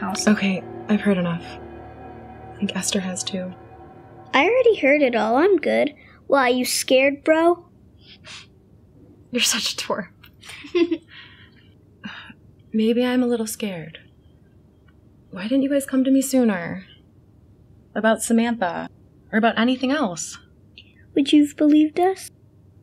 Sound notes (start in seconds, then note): 10.4 Esther laughs